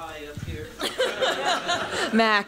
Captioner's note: laughter